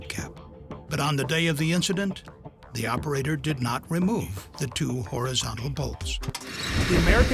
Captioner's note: hissing sound